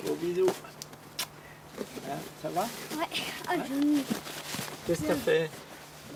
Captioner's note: speaking in foreign language